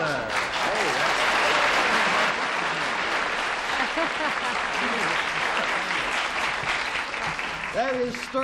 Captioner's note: applause